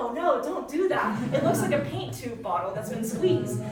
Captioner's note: audience chuckling